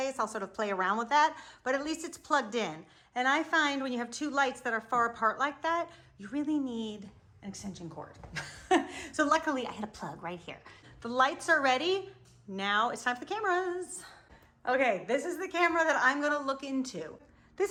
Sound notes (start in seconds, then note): 8.6 laughs